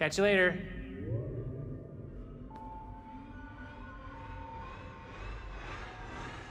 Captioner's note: spaceship whirs; alarm blaring